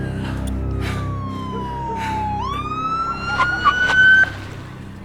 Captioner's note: siren blaring